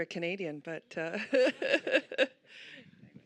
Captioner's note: laughter